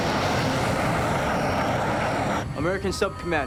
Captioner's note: aircraft noise